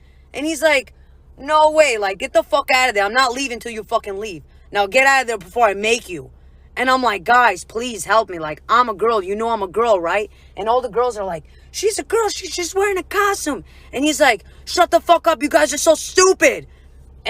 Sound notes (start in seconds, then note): none